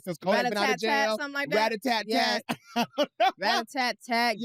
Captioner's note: laughs